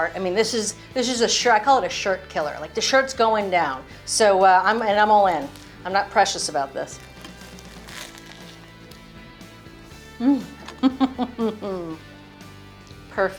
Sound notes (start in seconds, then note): 7.7 bun crunches; 7.7 upbeat music; 10.2 chuckles contentedly